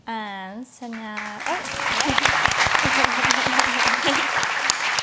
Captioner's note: audience applauds